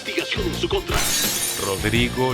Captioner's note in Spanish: Estruendo